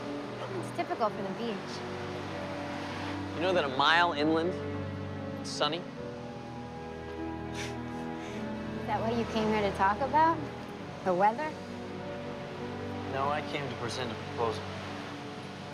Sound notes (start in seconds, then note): 7.5 laughs